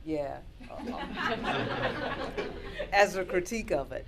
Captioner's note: laughter